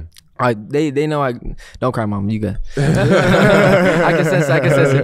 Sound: interviewers laughing

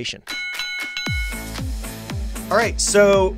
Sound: bells ringing

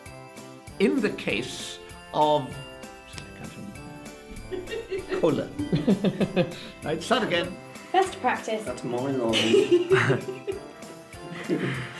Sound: laughter

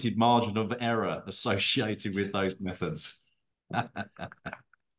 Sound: laughter

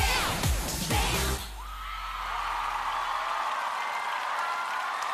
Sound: screams and Applause

